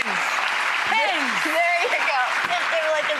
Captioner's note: audience applauds